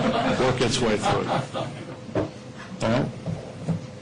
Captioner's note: laughter